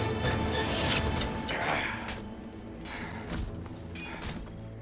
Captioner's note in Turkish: İnilti sesi